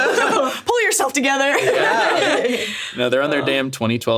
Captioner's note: all laughing